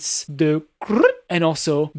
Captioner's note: brippp